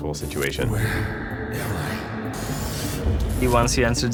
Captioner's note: ghostly voice